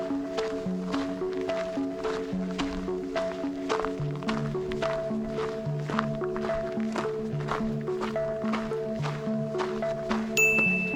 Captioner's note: bell dings